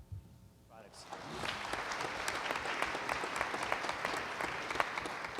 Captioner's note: applause